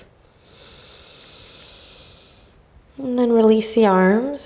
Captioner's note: inhaling